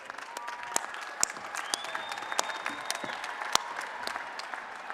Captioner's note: applause and Cheering